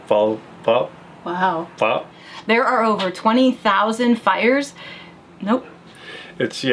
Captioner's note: none